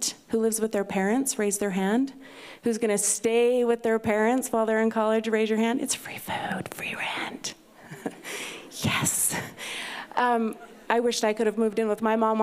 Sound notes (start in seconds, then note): 6.0 whispering; 7.9 laughs